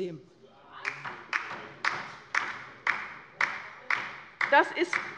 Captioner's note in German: Beifall bei der LINKEN